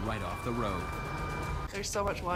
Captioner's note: ambulance siren